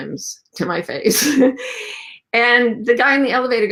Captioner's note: laughs